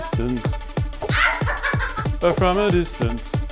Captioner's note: laughing